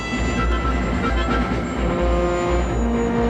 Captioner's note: none